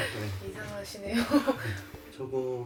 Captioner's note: laugh